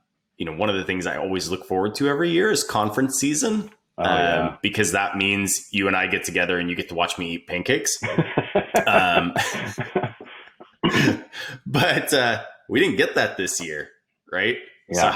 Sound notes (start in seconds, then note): 8.0 laughing